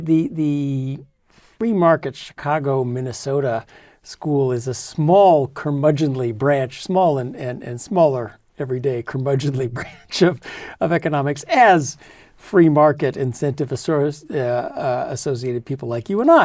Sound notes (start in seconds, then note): 10.0 laugh